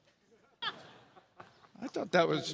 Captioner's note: audience laughs